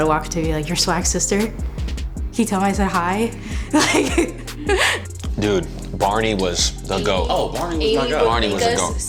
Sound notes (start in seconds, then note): 3.6 laughing